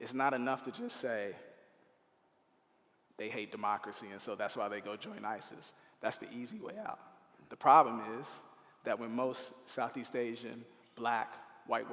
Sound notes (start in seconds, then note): none